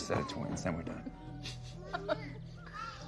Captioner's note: laughs